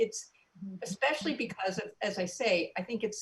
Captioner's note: none